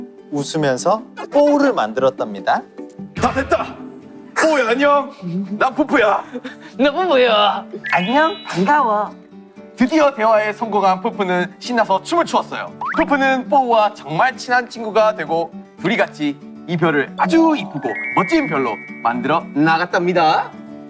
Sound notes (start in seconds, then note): 3.0 Peupeu's manly voice; 7.9 Ppowoo with sweet voice